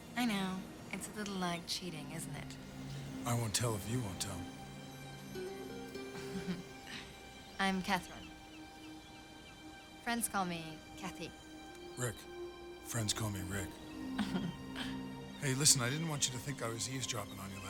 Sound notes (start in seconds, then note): 6.0 giggles; 14.1 Catherine chuckles